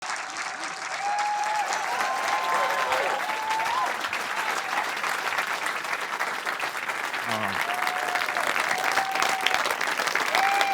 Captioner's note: applause and cheering